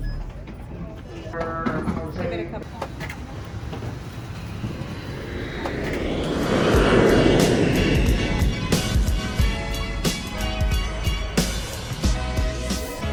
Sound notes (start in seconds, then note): 0.2 airport check-in beeps; 5.8 plane engine roars; 9.6 soft jazz music